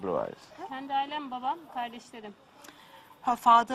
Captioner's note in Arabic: تتحدث بلغة أجنبية